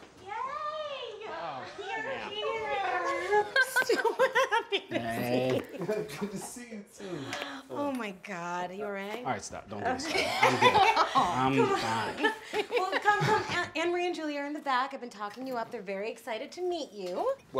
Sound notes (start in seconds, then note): 10.0 Meg laughs